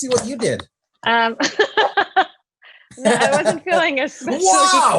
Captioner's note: laughs